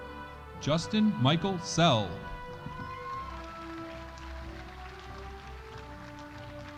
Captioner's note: audience applauding